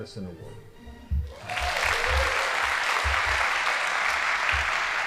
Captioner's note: audience applauding